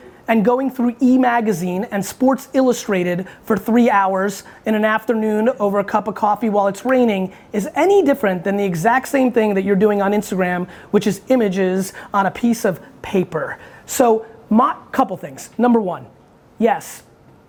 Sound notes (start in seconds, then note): none